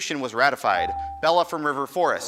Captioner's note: buzzer dings